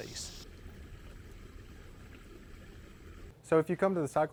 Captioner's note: water gurgling